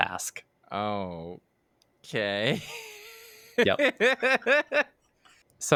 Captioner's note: nervous laugh